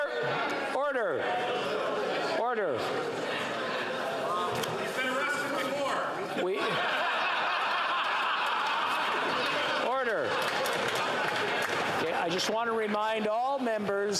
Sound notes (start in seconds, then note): 12.0 yelling; 12.4 laughter